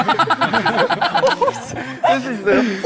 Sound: laughs

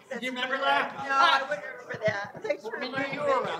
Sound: laughs

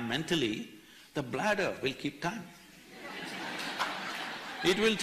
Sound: laughter

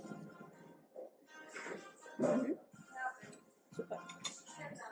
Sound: chatting

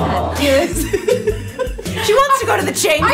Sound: giggles

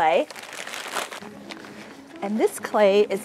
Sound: paper crinkling

